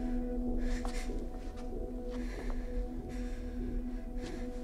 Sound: heavy breathing

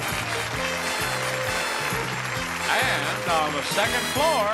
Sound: audience cheering

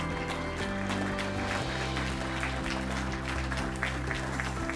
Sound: crowd continues applauding

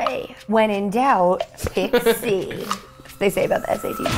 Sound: laughs

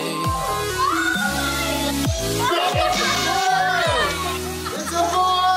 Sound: people cheering

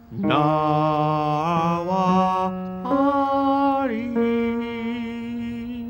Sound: long melodic tone

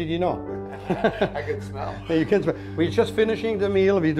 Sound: laughs

